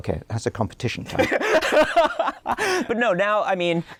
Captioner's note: laughter